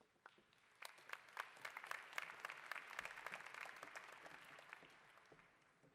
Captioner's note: applause